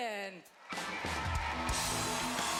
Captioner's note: cheering